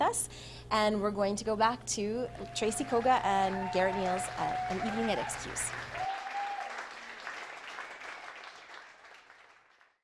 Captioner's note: applause